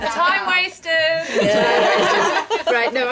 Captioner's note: laughing